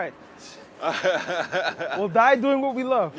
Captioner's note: laughs